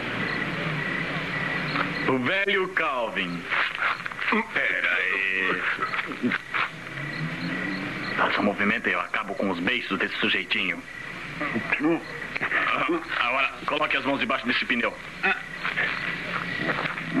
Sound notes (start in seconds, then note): 11.6 groans